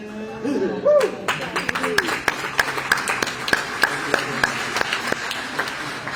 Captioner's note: applause